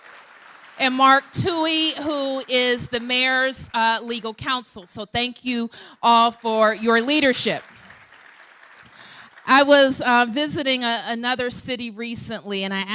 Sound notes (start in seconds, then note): 7.8 applause